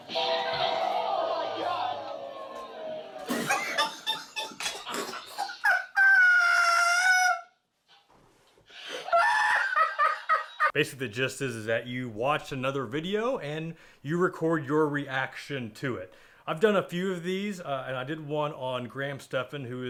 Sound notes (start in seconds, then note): 3.0 laughs